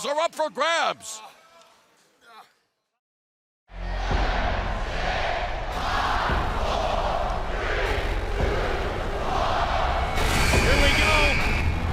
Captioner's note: crowd cheering